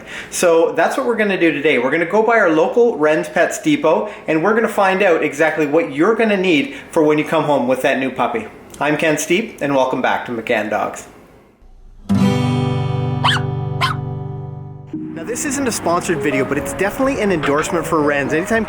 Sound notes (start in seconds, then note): 12.4 guitar strum; 13.2 dog barks